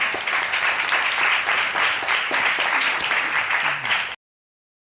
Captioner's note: audience applauding